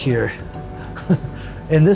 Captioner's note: laughs